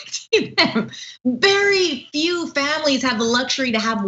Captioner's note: laugh